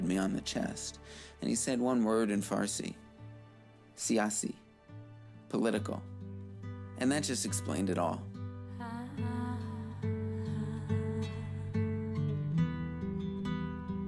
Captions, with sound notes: and he said one word in Farsi, (speaks foreign language) Political. And that just explained it all. (soft music)